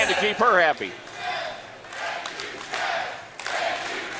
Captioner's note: crowd chants